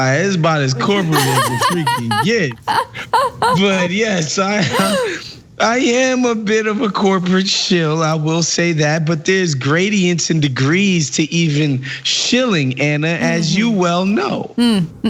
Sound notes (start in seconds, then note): 0.7 laugh